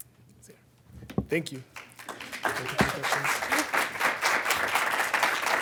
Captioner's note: audience clapping